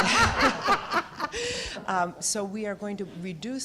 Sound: laughter

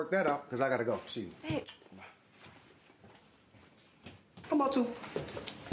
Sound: sighs

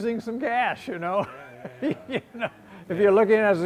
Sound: laughs

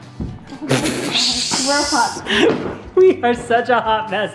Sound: holding back laughter

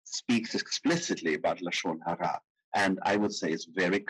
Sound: speaking in foreign language

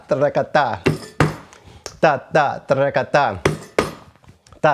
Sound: vocalizes rhythm

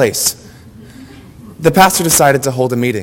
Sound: audience laughter

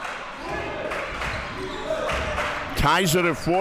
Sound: crowd cheering

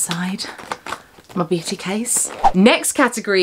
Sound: screen whooshing

